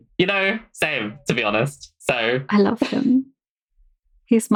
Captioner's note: laughs